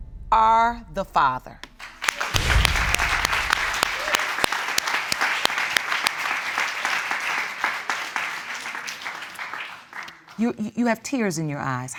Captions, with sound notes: "...are the father." (ALL CLAPPING) You, you have tears in your eyes.